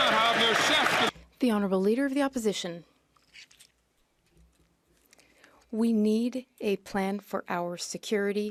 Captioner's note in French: voix de l'interprète